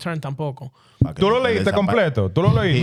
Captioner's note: speaking In Foreign Language